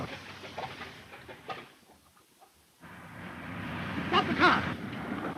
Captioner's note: engine sputtering